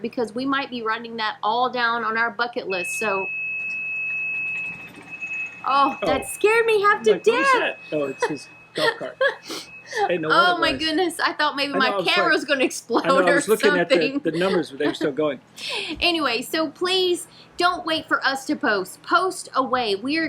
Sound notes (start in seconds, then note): 3.1 beeping; 8.8 laughing; 12.9 laughing